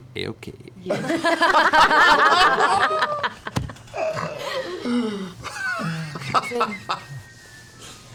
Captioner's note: laughter